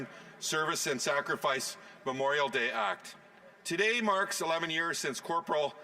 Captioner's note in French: voix de l'interprète